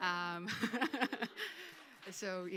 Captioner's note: laughs